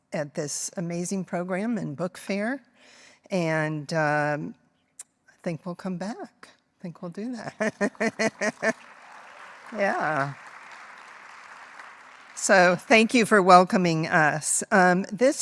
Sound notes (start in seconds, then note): 7.5 laughing; 7.8 audience applauding